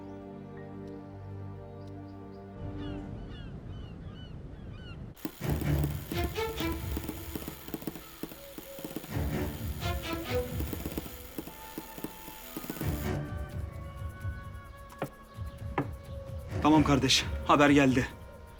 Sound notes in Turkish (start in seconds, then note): 3.0 Martı sesleri; 5.4 Müzik - Gerilim